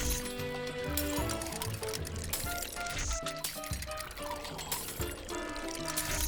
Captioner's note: splatters; machine clacking and buzzing; alarm ringing